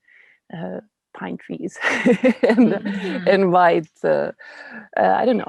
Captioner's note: laughing